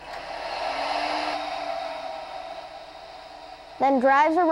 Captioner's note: mechanical noise